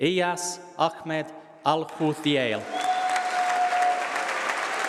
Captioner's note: applause